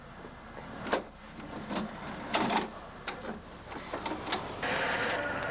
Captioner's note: clicking